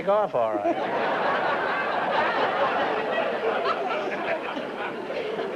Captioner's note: laughter